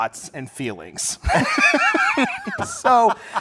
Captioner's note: laughter